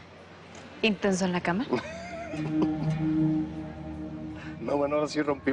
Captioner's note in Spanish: Risas